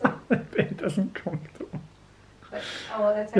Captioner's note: laughing